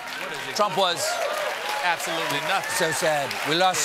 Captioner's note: applause